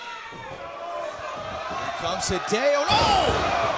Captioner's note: crowd chatter